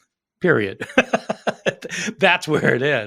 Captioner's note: laughing